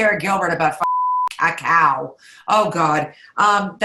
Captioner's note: beep